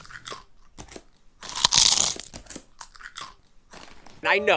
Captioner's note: chewing